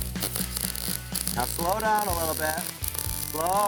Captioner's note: spark sounds